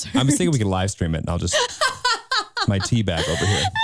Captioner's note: laughing